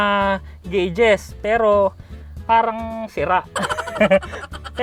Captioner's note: haha